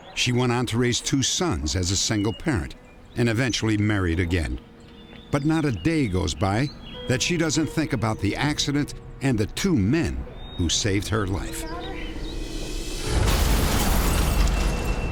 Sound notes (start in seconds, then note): 13.0 smashing